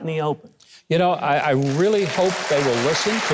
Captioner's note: congregation applauding